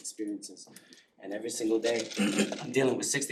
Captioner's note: cough